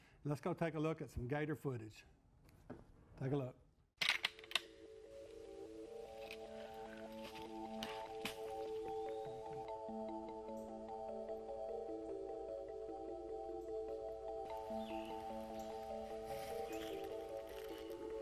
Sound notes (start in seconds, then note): 3.9 clacking sounds; 6.0 dreamlike music